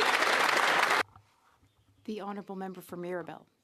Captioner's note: some Applause